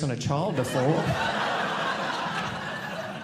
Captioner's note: audience laughing